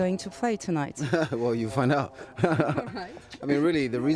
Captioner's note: rires